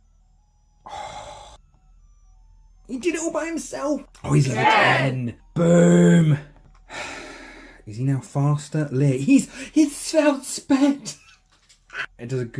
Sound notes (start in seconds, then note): 6.9 sigh; 11.1 excited mouth noises